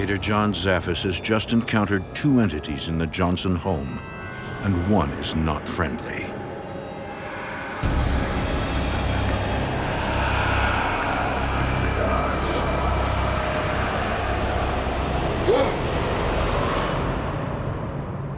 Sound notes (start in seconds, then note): 14.7 John gasping